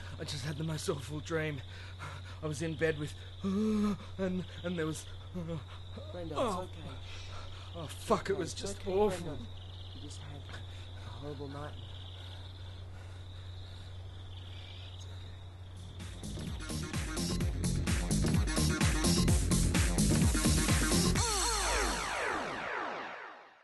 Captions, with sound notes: I just had the most awful dream. I was in bed, with... ahhhh... and there was... ahhhh... ugh! Brendo, it's okay. Shhh... Oh, fuck, it was just awful! It's okay, you just had a horrible nightmare. Shhh... it's okay. (sobs) (theme music)